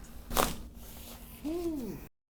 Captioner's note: neck cracks